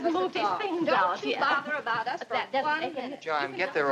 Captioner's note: indistinct chatter